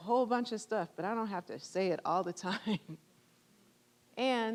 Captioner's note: chuckling